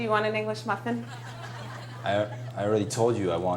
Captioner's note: audience laughing